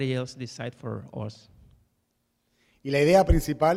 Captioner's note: speaking in Spanish. Translating into English